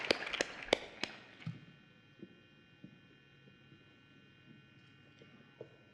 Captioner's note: applause